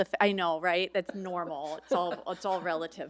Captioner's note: laughs